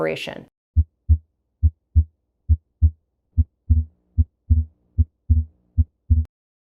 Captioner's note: heart beating